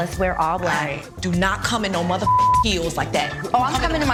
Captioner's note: beep